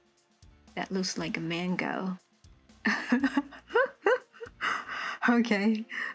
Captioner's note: laugh out lound